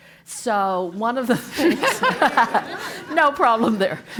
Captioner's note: laugh